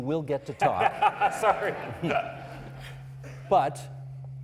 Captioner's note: laughing